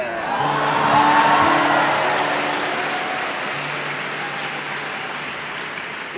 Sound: audience cheering and applauding

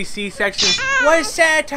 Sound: slicing sound with baby cry

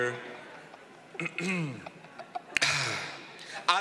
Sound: clearing throat

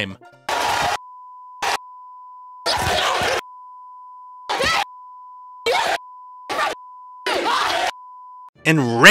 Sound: fighting and expletives

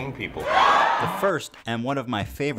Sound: crowd cheering

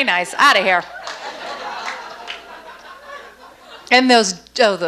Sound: audience laughs

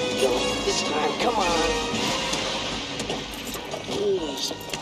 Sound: car clicking

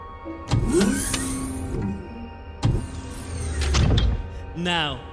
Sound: electric door opens and closes

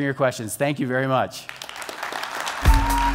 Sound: applause

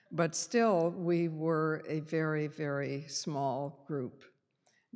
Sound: none

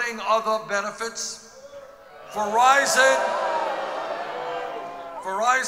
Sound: audience boos

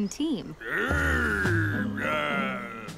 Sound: growling

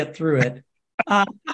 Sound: laugh

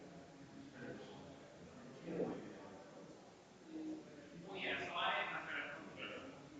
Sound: people chattering distantly continues

